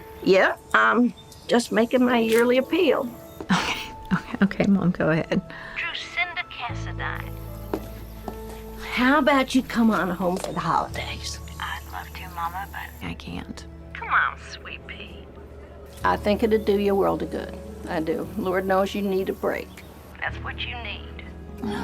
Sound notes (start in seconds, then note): 3.4 chuckles